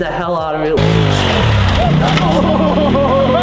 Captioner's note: engine roaring